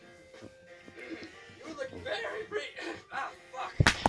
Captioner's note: cracked voice; slap